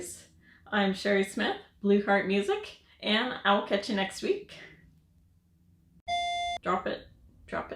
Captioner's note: audible beep